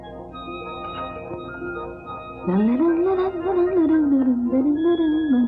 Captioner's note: humming